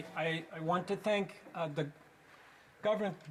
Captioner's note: speaking French